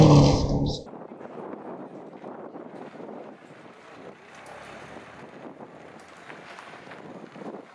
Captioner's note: engine rumbling